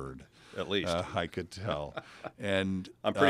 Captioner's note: laugh